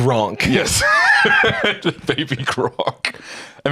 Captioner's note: laughs